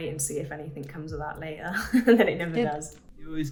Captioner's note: laughs